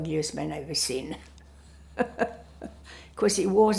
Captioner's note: laughing